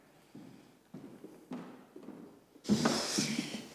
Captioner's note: feet thumping